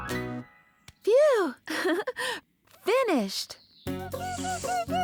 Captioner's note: giggling